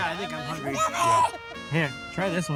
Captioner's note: child shouts